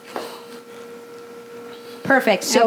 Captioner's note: whirring